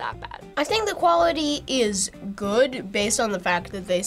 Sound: none

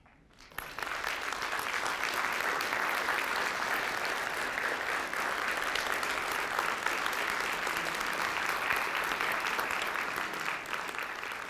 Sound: applause

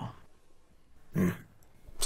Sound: Randy grunts

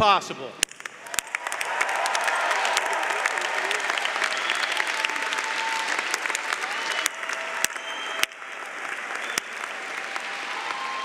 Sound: cheering & Applause

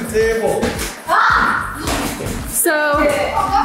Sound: screams

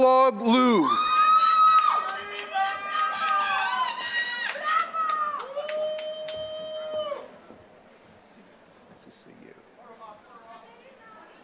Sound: applause

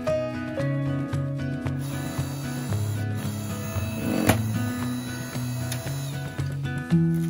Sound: electric wood splitter sound

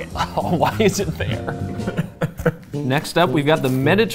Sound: chuckling

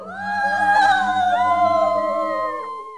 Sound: screaming

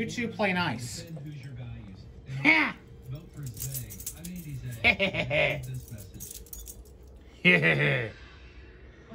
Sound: evil laughter

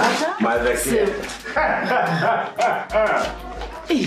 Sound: chuckles

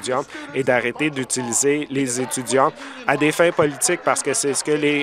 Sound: applause

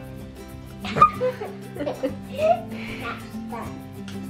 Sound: laughs

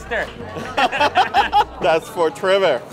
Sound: they laugh

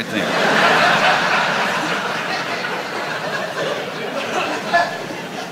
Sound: laughter

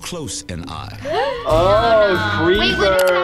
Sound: both gasp

